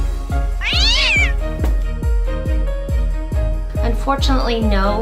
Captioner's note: cat screeching